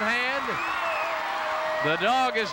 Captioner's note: Junkyard Dog howls